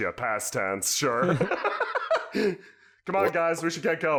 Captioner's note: laughs